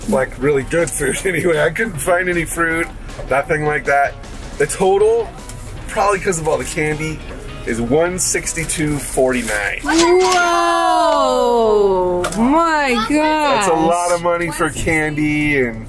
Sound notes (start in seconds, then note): 8.7 cash register rings